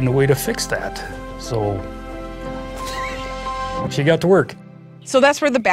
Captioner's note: chuckle